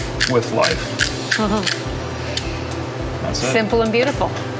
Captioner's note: laughing